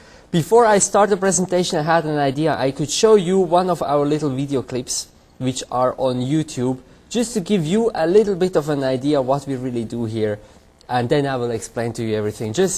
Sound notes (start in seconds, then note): none